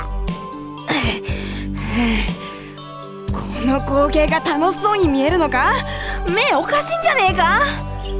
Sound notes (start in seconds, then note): 0.3 huff; 0.9 pant